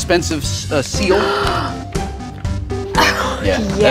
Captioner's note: gasp